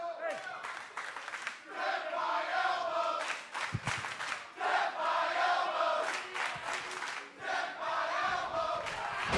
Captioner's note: fans chanting